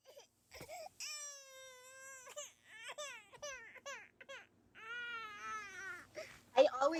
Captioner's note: baby crying